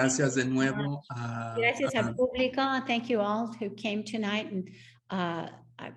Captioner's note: speaks Spanish